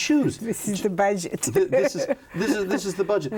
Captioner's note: laughs